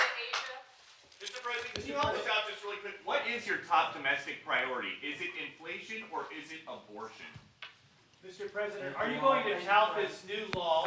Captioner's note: applause